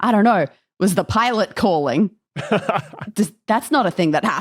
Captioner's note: laughs